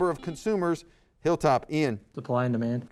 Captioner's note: buzzer